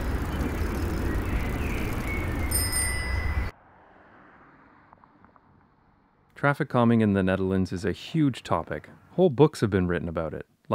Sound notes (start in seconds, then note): 2.2 bicycle bell